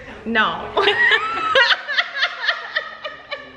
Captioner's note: both laughing